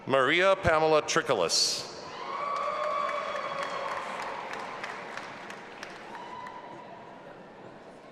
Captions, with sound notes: Maria Pamela Trikolas. (audience applauding and cheering)